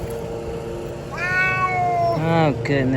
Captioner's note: meow